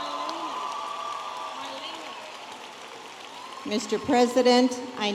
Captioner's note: audience applauding and cheering